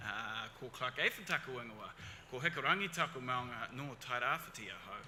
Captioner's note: speaks foreign language